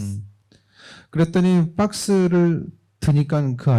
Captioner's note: speaking korean